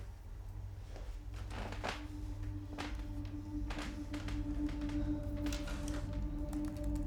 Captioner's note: pensive music; chair creaking; fingers tapping